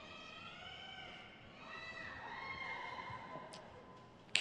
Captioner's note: crowd cheers